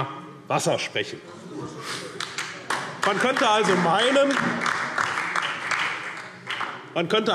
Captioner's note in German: Beifall SPD und vereinzelt DIE LINKE